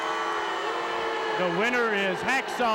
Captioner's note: audience booing